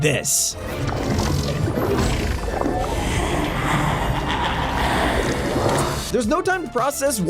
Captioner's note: evil laugh